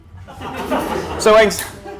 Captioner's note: laughter